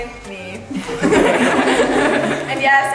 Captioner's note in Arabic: الضيوف يضحكون